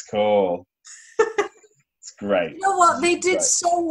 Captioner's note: laughter